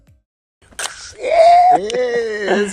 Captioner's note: can cracking open